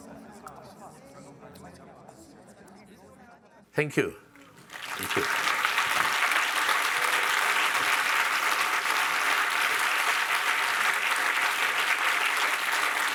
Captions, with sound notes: Thank you, thank you. (audience applauding)